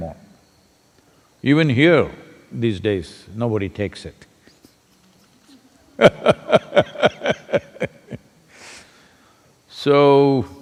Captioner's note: laughs